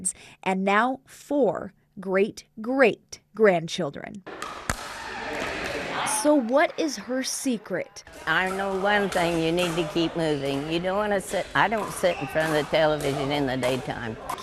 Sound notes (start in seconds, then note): 4.3 ball whooshing; 4.4 people chattering